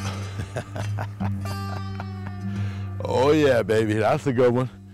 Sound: laughs

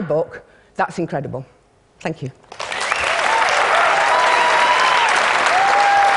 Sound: applause

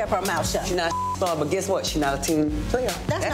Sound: beep

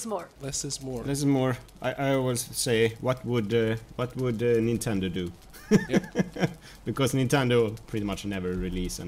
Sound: laughs

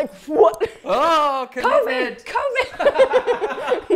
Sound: laughs

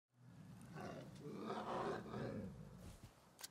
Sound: grumbling

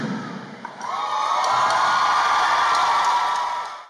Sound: cheering

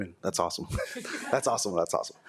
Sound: audience laughing

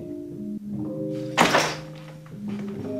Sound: bag thuds

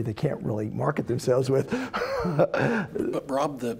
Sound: laugh

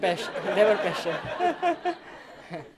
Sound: laughter

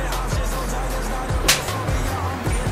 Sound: slap

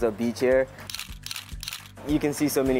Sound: camera snaps

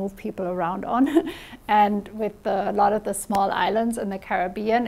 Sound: chuckles

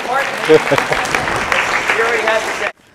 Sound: applause

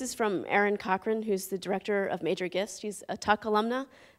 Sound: none

